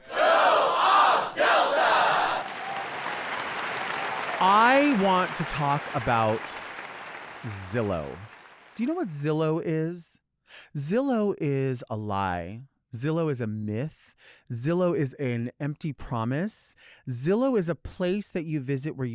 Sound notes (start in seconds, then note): 2.6 audience cheering and clapping